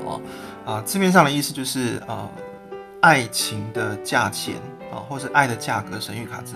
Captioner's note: explaining its meaning in Mandarin